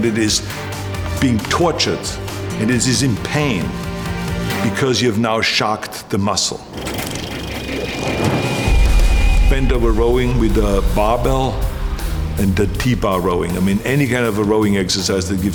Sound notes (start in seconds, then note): 7.5 film rattling